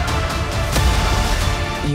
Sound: explosion

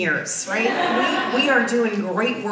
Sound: audience laughs

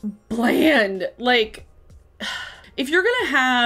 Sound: sighs

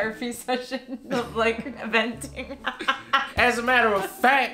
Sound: laughing

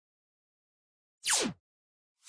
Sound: zap

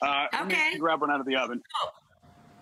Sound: hiccuping

